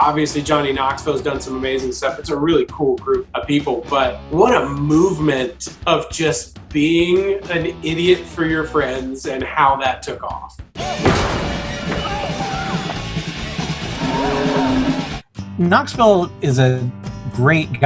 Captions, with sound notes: Obviously Johnny Knoxville has done some amazing stuff. It's a really cool group of people, but what a movement of just being an idiot for your friends and how that took off. (thumping horn) (bull moaning) - Knoxville is a great guy,